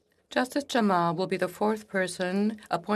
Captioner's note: speaking French